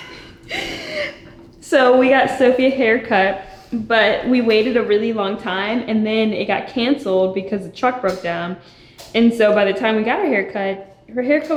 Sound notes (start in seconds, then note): 0.0 laughing